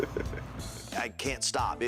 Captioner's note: AJ chuckles